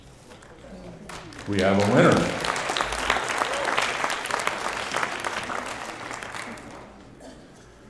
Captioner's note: applause